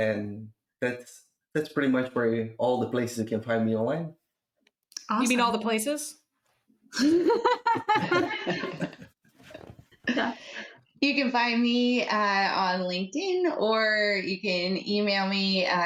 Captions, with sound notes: And that's pretty much where all the places you can find me online. Awesome. You mean all the places? [LAUGHTER] You can find me on LinkedIn, or you can email me